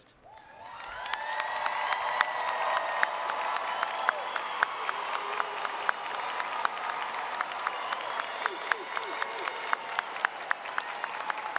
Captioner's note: applause